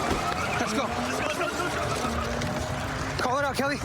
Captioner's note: shouting